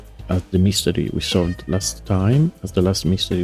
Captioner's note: meow in background